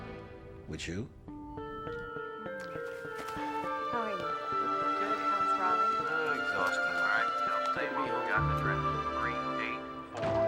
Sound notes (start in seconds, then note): 2.4 family chattering; 3.2 dramatic orchestral music